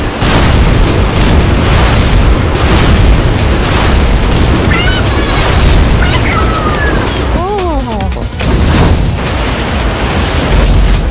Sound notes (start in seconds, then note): 4.9 Inkling gibberish